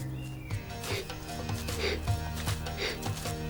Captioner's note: panting